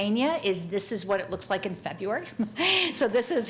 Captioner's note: chuckles